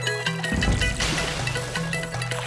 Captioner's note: splashing